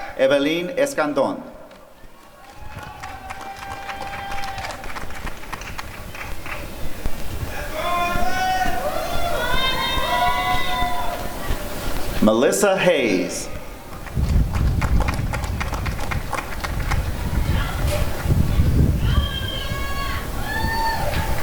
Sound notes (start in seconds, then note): 2.0 applause and cheering; 13.9 applause and cheering